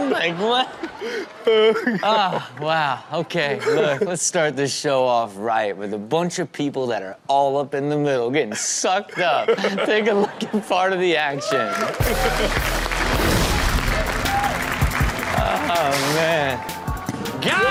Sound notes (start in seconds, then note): 11.2 audience cheers; 11.9 upbeat music